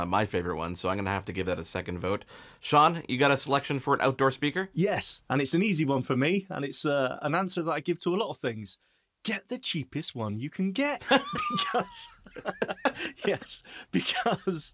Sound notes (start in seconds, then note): 11.0 giggling